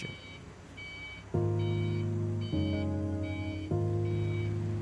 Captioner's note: forklift beeping